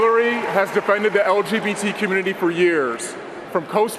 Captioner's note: cheering and applause